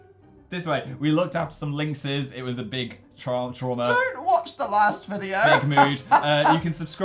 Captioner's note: strained